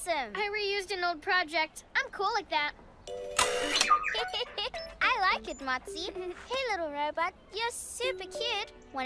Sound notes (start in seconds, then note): 4.1 giggles